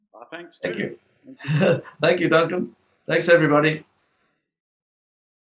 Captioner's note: chuckles